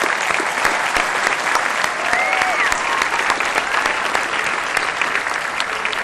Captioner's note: applause